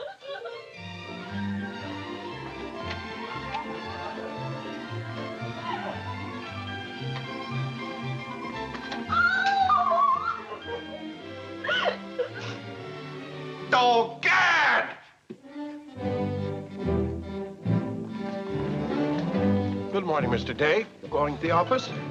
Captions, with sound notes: [instrumental music] [Mary crying] [Mary crying] Oh, God! Good morning, Mr. Day. Going to the office?